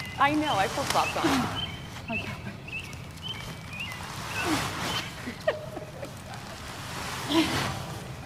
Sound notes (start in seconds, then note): 2.2 grunting